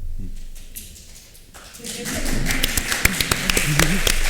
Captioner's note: applause